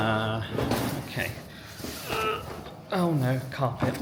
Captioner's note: groans